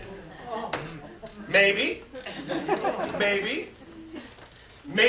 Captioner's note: laughter